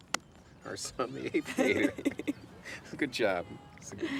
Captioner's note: clapping; laughs; chuckles